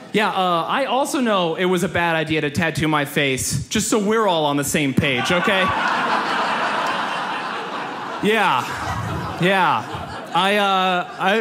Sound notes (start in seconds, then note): 5.1 audience laughs